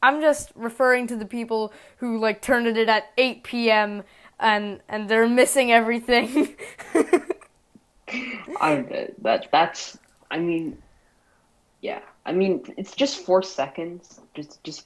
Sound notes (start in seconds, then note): 8.1 laughs